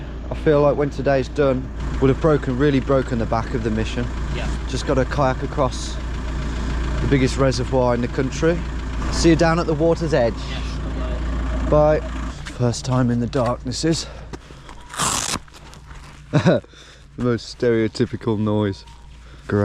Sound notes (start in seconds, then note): 15.0 owl calling; 16.3 laughing